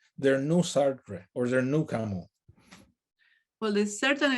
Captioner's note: speaks in native language